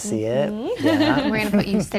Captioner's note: laughing